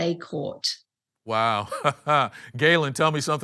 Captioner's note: chuckles